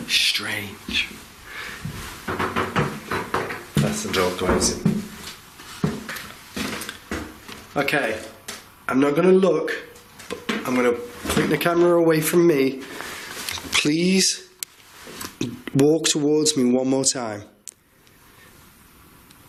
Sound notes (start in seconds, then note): 3.8 door creaking; 5.5 footsteps